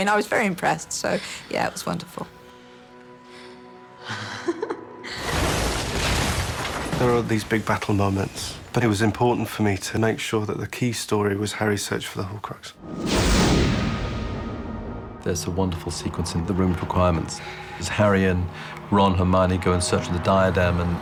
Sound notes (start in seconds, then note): 4.1 both chuckle